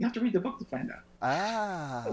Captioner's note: chuckles